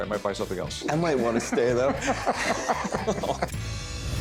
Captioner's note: laughter